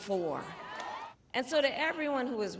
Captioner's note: cheering